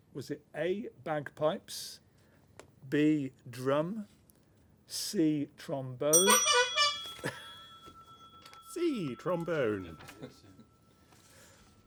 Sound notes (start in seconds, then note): 6.2 honking